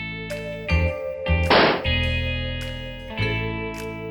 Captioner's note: gun shot